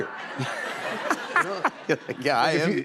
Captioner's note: laughter